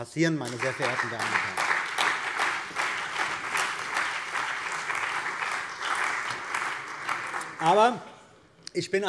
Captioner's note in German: Beifall bei der CDU und dem BÜNDNIS 90/DIE GRÜNEN